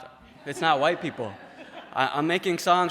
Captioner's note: laughter